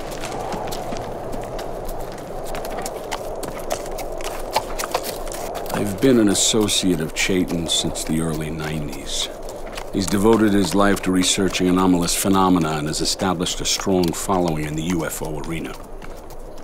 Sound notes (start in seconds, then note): 2.5 hooves clapping